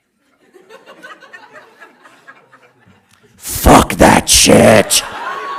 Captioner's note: audience laughing